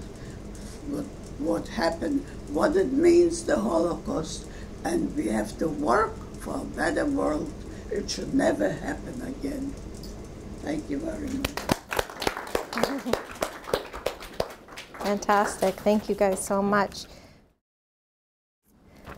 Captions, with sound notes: what happened, what it means, the Holocaust. And we have to work for a better world, it should never happen again. Thank you very much. (audience claps) - Fantastic, thank you guys so much.